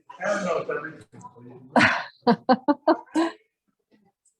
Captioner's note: laughs